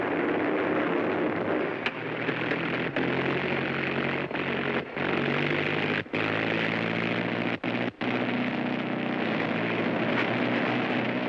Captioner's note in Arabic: هدير الطائرة